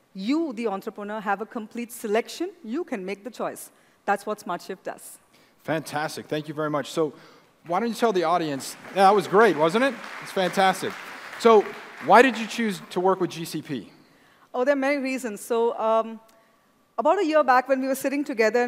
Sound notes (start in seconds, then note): 9.9 applause